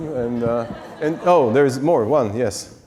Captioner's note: audience laughs